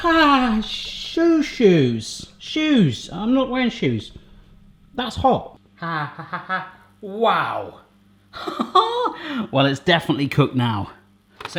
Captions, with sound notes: Ahh, shoe shoes, shoes, I'm not wearing shoes. That's hot. (he yelps) Wow. (he laughs) Well it's definitely cooked now.